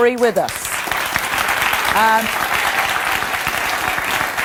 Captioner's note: audience applause